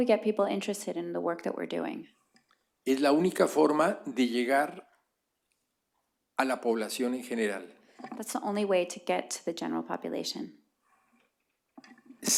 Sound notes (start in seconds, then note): 5.2 speaking spanish